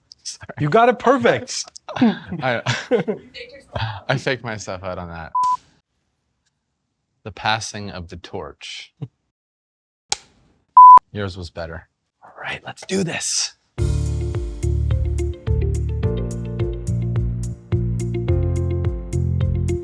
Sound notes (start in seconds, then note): 5.4 beeping; 5.4 clapperboard snaps; 10.1 clapperboard snaps; 10.8 beeping; 13.8 upbeat music